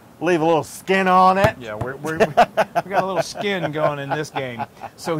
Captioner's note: laugh